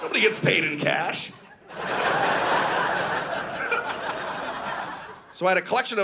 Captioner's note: audience laughing